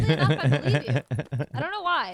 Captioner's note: laughing